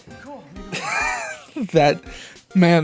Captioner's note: wheeze